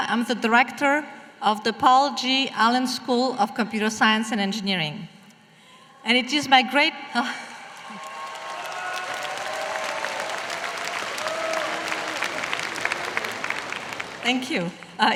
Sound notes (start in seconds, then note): 7.6 applause